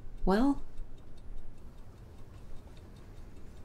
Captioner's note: ticking